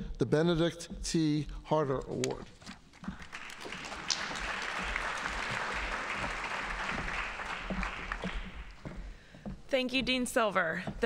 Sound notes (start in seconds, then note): 3.0 audience applauding